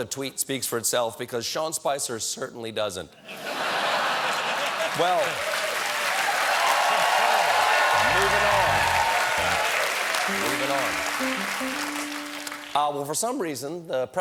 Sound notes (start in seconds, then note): 3.2 laughter; 4.2 applause; 10.2 piano riff